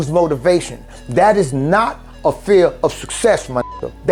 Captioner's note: beep